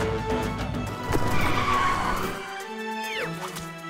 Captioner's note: tires screech to a halt